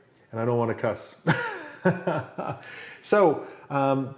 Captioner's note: laughs